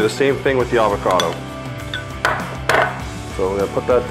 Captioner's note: glass clanking